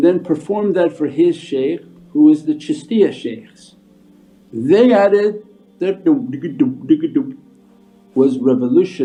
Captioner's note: mimics instruments